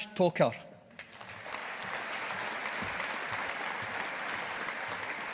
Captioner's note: audience applauding